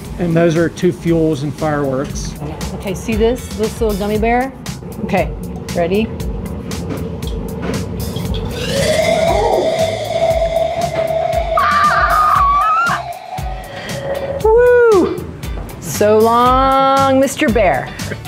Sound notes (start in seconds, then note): 8.4 chemicals screeching; 11.5 screaming